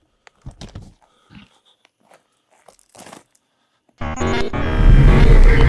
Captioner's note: camera shuffles; dark brooding music; static hisses